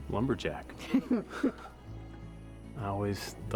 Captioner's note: chuckles